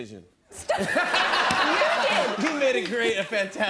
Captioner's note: laughter